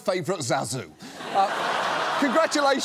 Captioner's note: laughter